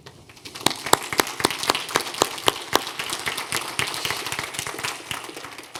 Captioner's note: graduates applauding